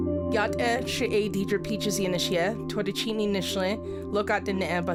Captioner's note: speaks foreign